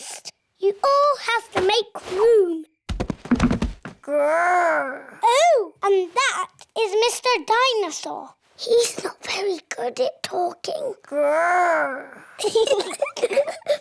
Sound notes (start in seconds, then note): 8.4 whispers; 12.4 both giggle